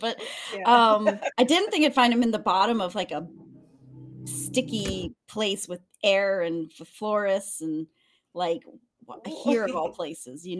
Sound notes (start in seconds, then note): 1.0 laughs; 9.2 laughs